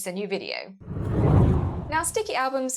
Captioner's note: hard whooshing